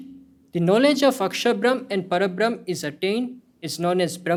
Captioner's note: hindi